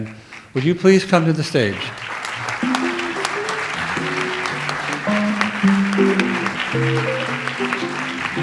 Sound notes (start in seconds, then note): 2.1 audience applauds; 2.6 light jazz music